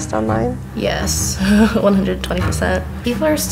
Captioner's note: laughter